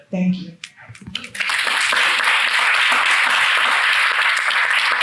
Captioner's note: attendees clapping